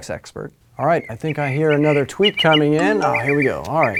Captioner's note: bird chirping